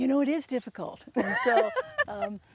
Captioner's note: laughing loudly